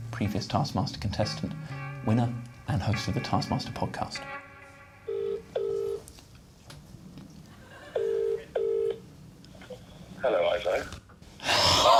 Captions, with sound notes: I'm gonna call Ed Gamble. Previous Taskmaster contestant. Winner and host of the Taskmaster Podcast. [line ringing]